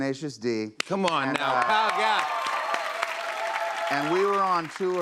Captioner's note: cheers and applause